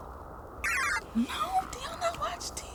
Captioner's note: electronic computer sounds playing